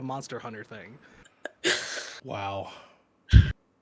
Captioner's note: laughs